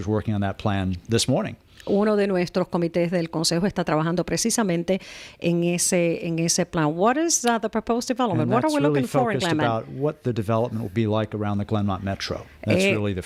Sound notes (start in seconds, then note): 7.5 Hablando ingl\s